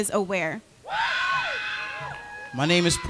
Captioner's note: crowd cheering